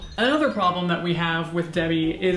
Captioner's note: chimes tinkling